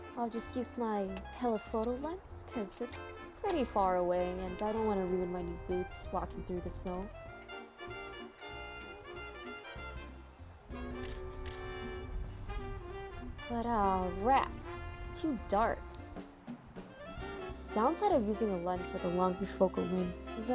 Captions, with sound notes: I'll just use my telephoto lens because it's pretty far away and I don't want to ruin my new boots walking through the snow. (sound of camera shutter) But oh, rats! It's too dark. The downside of using a lens with a longer focal length is